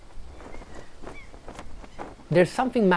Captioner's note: wind blows